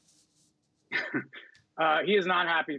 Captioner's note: laughter